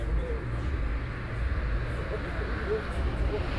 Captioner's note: traffic thrums